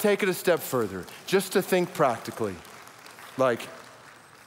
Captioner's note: audience applauds